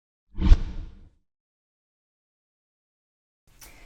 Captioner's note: whooshing